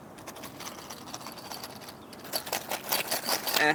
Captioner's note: coin purse jingles, full of money